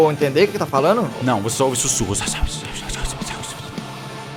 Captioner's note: whispers